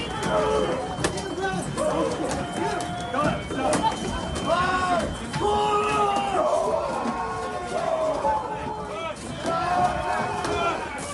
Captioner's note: screaming